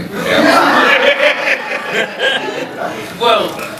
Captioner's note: laughs; audience laughing